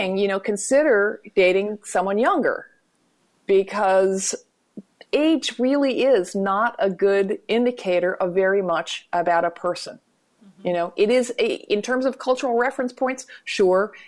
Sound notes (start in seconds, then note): none